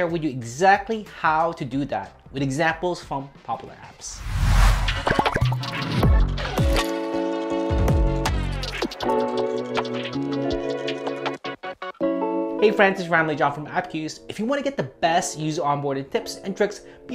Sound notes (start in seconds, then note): 4.9 popping sounds; 7.8 upbeat music